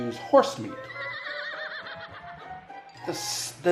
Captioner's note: horse neighs